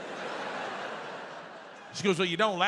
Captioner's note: audience laughs